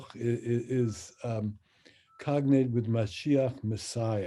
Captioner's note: speaks in Hebrew